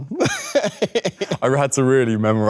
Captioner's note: Leo chuckles